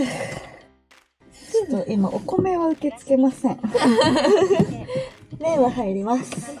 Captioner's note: laughs